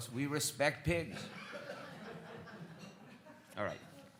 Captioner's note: audience laughs